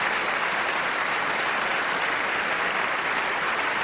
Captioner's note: applause